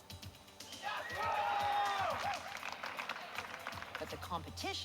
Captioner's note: crowd cheering